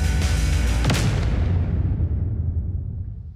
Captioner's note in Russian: выстрел